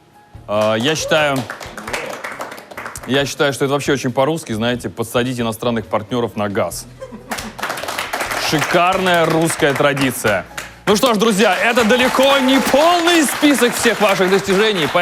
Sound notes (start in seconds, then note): 7.3 applause